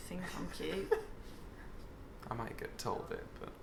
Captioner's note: laughing